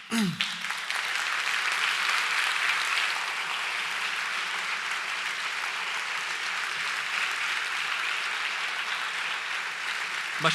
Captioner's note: applause